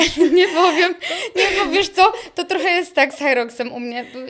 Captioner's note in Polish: śmiech